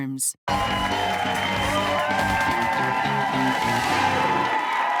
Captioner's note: cheers and applause